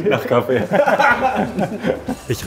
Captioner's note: laughter